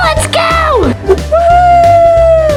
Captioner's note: whooshing